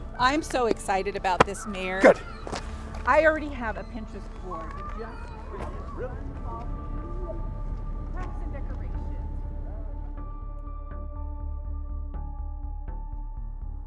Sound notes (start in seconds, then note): 6.6 speaking faintly; 10.5 gentle music